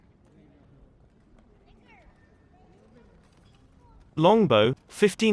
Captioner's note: people chattering